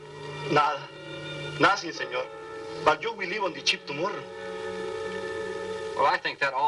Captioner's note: speaking spanish